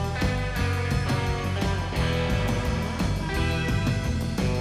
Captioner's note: none